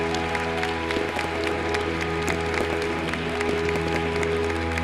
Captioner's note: applause; light orchestra music; fireworks exploding